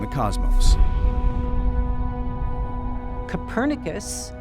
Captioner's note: boom